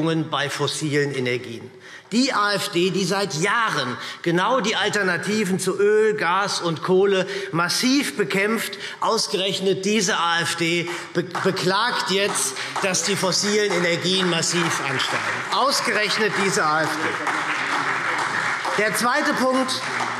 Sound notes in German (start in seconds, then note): 17.4 Beifall